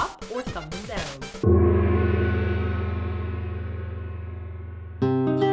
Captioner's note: gong!!